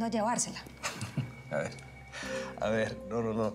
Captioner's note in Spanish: risas